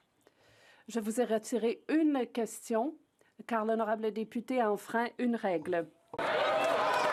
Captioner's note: some Applause